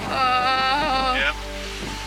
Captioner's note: moaning